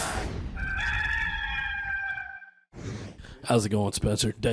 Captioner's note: rooster crowing